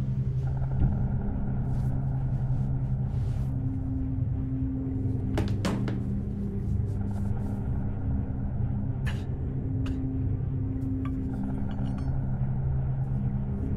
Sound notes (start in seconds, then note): 9.0 Sean coughs